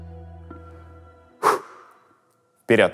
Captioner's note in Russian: выдыхает